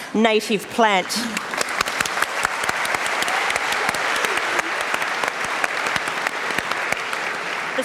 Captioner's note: applause